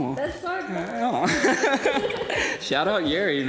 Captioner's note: laughs